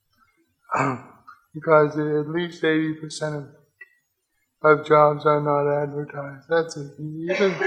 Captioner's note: clears throat